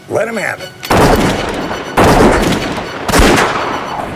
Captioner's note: guns fire